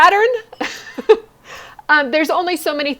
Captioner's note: laughs